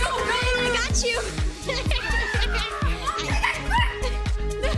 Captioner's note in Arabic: يضحك; ضحك; يضحك